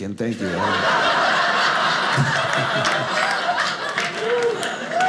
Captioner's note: audience laughing